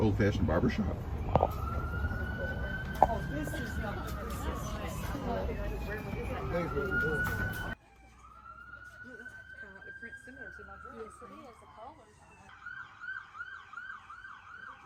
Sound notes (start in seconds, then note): 2.5 siren sounding